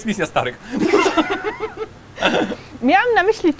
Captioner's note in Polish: śmiech